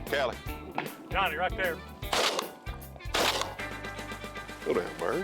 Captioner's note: gun shots